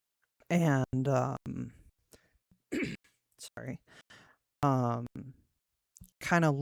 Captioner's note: clears throat